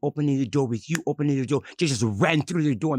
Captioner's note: snaps fingers